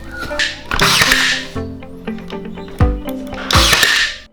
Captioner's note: nail gun shooting